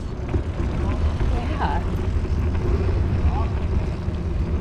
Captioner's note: bike rumbling